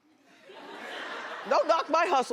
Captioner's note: laughing